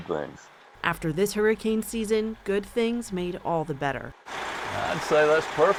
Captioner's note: voice-over